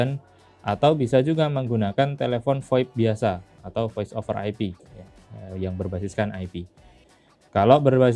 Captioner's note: voice over IP